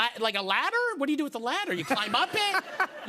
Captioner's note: laughter